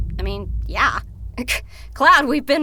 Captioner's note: Tifa sputters